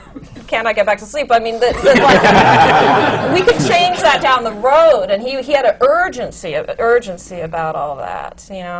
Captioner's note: laughter